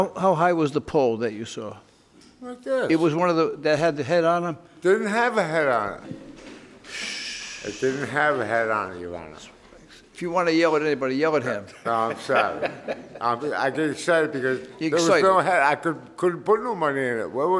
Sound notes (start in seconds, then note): 11.4 inspector laughs